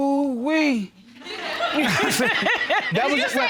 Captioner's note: all laughing